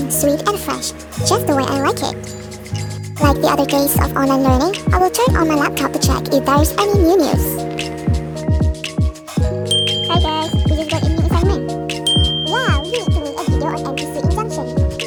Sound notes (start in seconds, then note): 9.7 DING!- Notification sound; 12.0 DING!- Notification sound